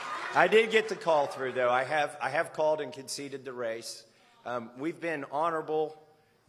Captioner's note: cheers